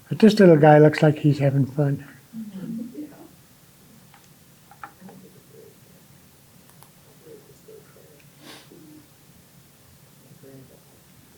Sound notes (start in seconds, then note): none